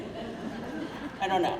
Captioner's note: crowd laughing